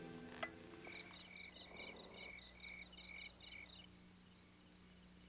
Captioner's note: insects chirping